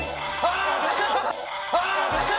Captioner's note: arrrrggh